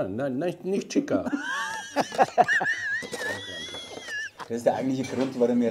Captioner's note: laughter